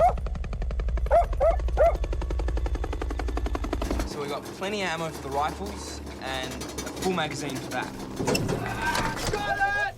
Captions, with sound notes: (PIPES RATTLE LOUDLY) So, we've got plenty of ammo for the rifles and a full magazine for that. Got it!